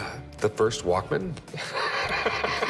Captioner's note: laughs